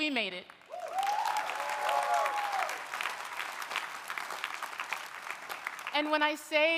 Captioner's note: audience applauding; audience cheering